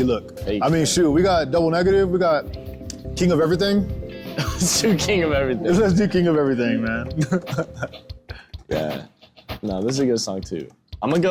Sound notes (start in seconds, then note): 4.2 laughs